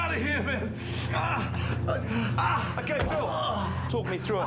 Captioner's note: Phil grunts